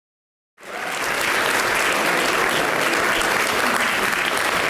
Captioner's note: audience applauds